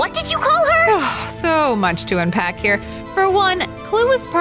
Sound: sighs

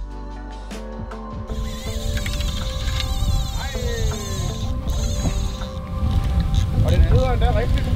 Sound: line squeekz

